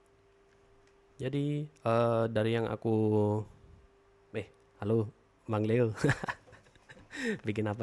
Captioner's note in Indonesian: tertawa